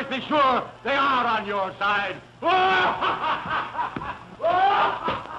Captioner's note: laughing